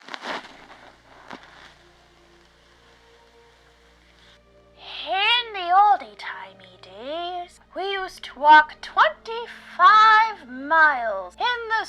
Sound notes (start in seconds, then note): 0.0 film crackling; 2.0 gentle music